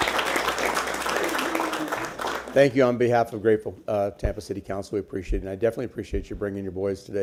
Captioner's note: applause